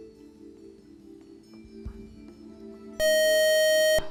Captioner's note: buzzer